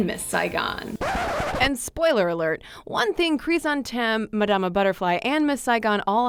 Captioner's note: disc scratch